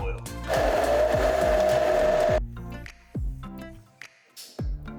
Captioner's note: blender whirring